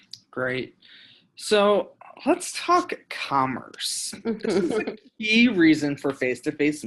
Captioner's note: laughing